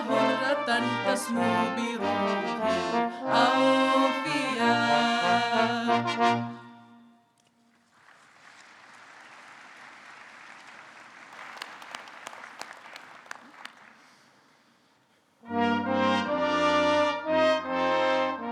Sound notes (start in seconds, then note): 7.6 audience clapping; 15.8 gentle music